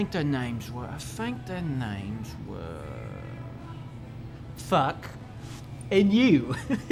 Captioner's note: chuckling